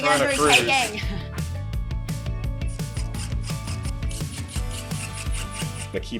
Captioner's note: drill whirring; gentle upbeat music